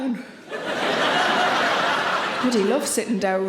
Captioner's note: audience laughing